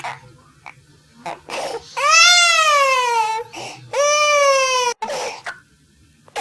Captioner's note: crying